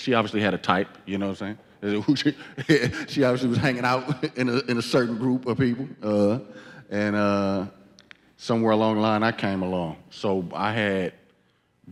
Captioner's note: laughs